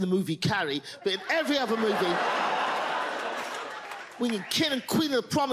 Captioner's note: audience laughs